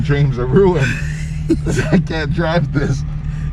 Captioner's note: laughs